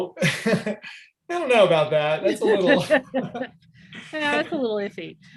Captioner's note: laughter